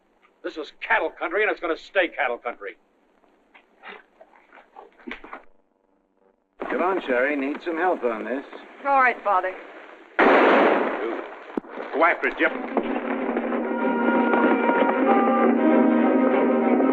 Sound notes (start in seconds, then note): 10.1 gunshot; 12.5 suspenseful music